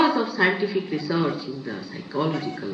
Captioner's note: none